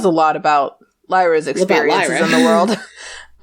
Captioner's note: laughs